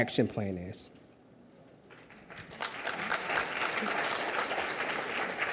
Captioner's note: audience applauds